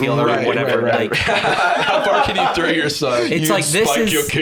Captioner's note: laughs